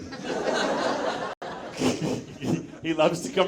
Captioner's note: audience laughs